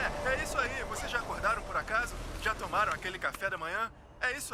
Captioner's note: Bread Head exclaims